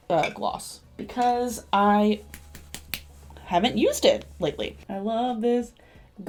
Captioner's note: tapping